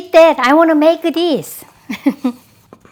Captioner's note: laughs